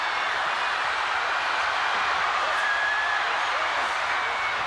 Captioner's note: crowd cheering